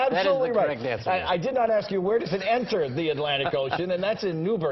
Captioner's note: laughter